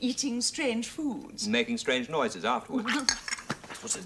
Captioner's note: Amanda chokes